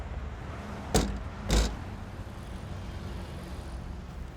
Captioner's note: hand thudding